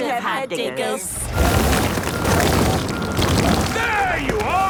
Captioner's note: rock crumbling